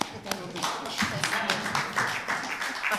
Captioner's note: applause